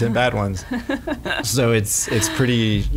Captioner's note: laughs